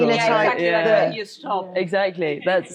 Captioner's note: all murmuring